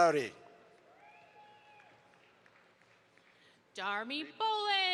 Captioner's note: audience applauds